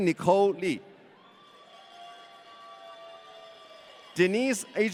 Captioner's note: audience cheering